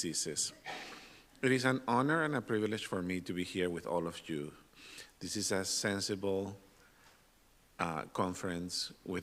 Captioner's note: snorts